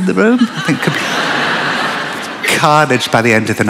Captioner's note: laughter